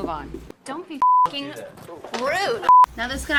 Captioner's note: beep